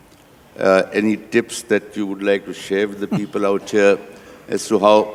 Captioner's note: Sadhguru laughs